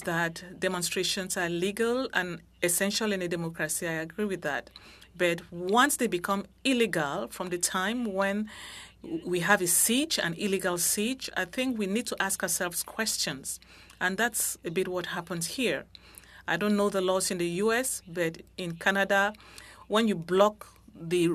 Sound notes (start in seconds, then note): 4.6 speaking French